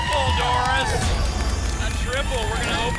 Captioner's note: whoosh; boom